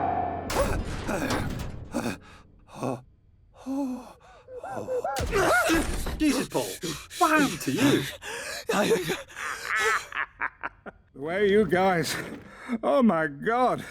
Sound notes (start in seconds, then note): 0.2 Rudd panting frantically; 4.2 Paul muffled panting; 5.1 Paul gasps; 7.7 Paul gasping for air; 8.6 Nedward maniacally laughing